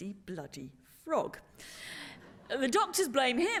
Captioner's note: laughter